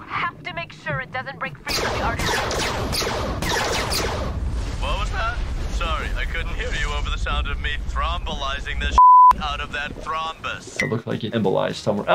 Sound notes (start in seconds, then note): 3.3 gun zaps; 8.9 beep